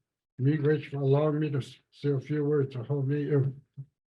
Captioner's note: speaks in native language